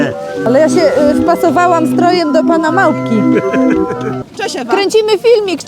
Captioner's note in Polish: śmiech